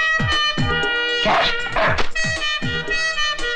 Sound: dog Barking

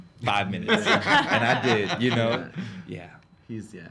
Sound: all laugh

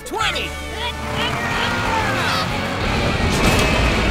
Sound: grunting

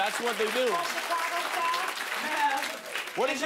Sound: laughter and applause

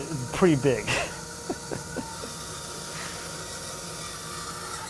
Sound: laughing

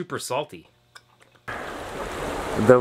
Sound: relaxing ocean sounds

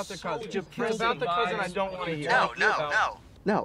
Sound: group disappointedly groans & complains

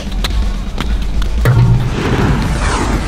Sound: flames sizzling; whooshing; ball clanging rim

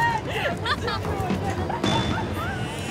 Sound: laughter

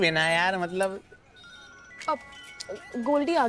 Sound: phone ringing

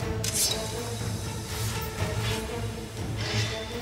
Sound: Kılıç sesleri

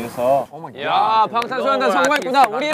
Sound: clapping

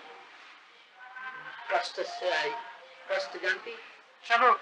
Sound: Hindi

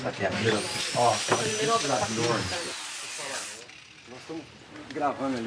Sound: power saw whirring; all speaking foreign language

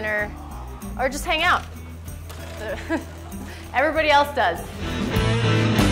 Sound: laughs

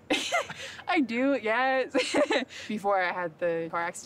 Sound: laughs

